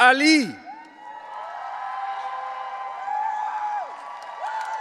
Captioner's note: audience cheering